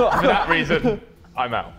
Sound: Sidemen laughing

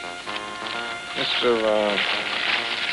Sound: paper crinkling

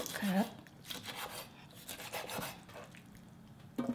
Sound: cutting

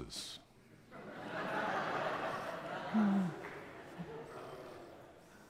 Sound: crowd laughing

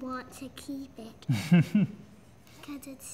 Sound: laughs

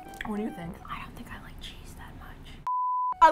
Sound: whispers

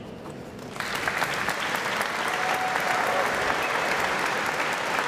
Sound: applause

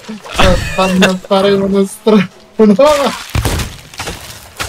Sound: laughing

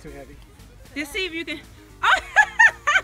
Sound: voiceover; laughing

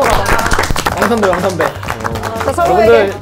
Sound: applause

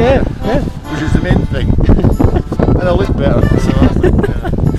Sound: more laughter

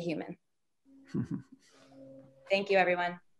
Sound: person chuckles

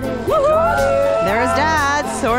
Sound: people cheering

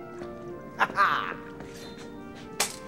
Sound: laughs

